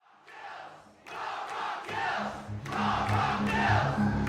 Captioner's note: crowd chanting